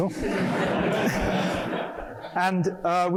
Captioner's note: laughter